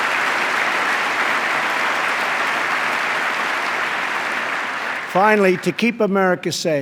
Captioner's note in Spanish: aplauso